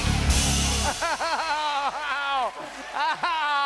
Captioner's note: cheers and applause; laughing